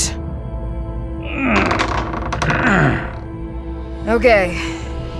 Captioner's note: Gareth grunt, metal door opening